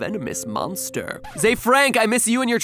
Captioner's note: music Scratch